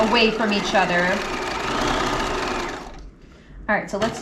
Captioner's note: sewing machine whirling